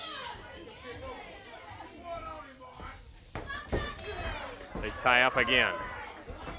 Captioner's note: crowd chatter